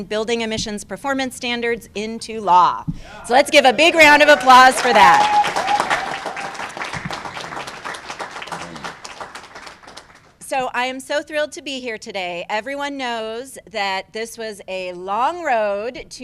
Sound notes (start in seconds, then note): 5.7 cheers and applause